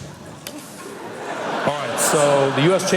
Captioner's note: laughter